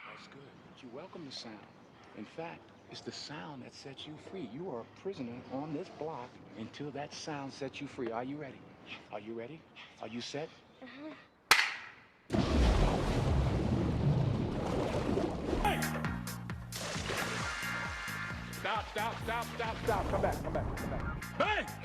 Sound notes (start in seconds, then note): 11.5 loud slap; 12.2 loud splash